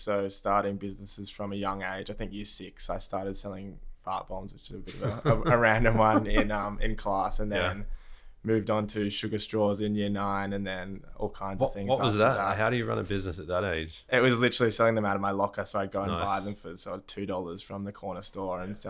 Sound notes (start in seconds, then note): 4.8 laughter